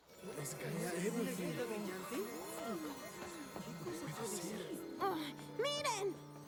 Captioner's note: excited chatter